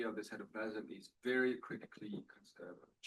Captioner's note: audio blurs